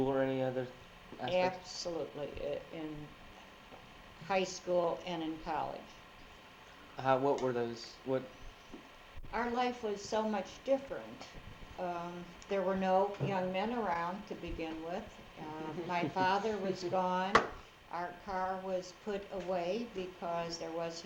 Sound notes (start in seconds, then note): 15.6 laughs